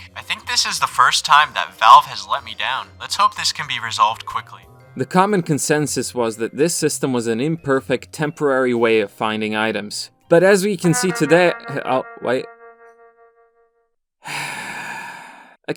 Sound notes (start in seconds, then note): 10.8 TF2 notification alert SFX; 14.2 sigh